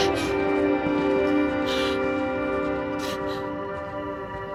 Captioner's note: footsteps departing